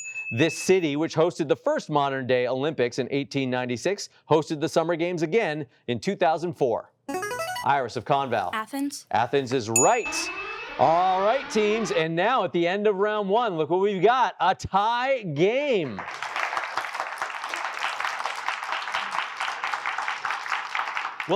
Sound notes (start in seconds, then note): 9.8 alarm blares; 15.8 applause